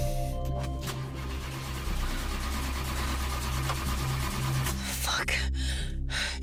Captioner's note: car beep; car engine whirring; panting